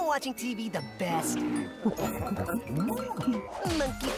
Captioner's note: clyde coos softly, mesmerized